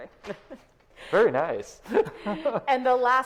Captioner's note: laughs